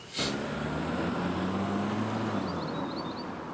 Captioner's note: car engine rumbling; birds chirping